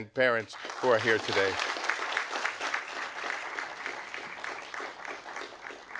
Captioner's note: audience applauding